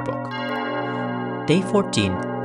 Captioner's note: sound of bells